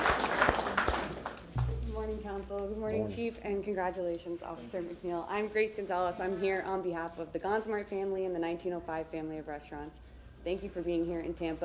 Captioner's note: applause